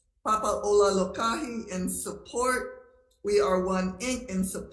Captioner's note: speaking Hawaiian